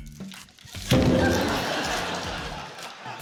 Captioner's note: thud!